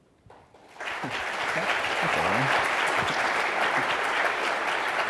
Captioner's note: audience applauding